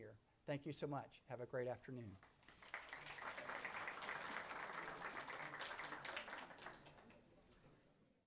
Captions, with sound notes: in supporting your loved one here. Thank you so much, have a great afternoon. (applause)